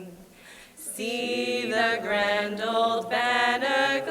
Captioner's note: none